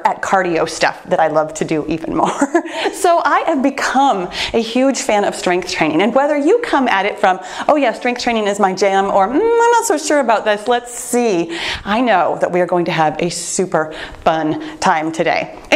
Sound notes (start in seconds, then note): 2.1 laughs